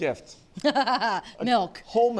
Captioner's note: laughs